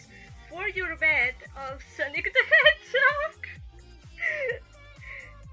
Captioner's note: chuckle